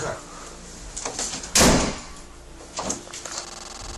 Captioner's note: door slams; Slenderman static